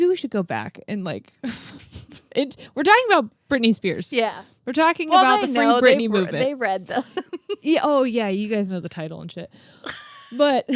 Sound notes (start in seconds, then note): 6.8 laughs